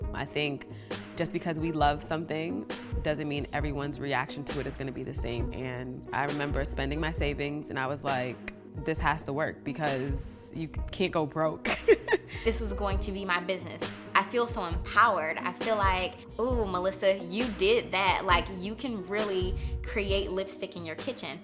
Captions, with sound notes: I think just because we love something doesn't mean everyone's reaction to it is gonna be the same, and I remember spending my savings, and I was like, this has to work, because you can't go broke. [laughing] This was going to be my business. I feel so empowered, I feel like, ooh, Melissa, you did that, like, you can really create lipstick in your kitchen.